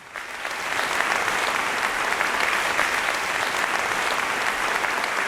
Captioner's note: applause